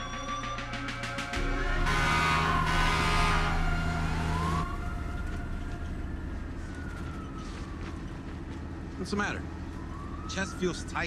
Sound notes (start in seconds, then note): 1.1 horn honks